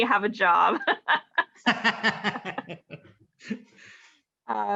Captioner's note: laughing